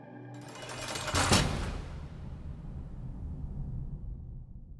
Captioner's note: jail doors clanking shut